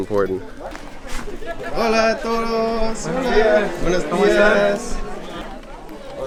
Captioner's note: speaking foreign language